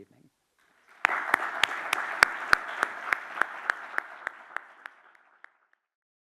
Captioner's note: audience and applauding